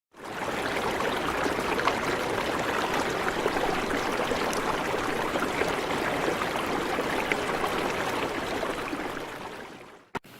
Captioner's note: the sound of water bubbling loudly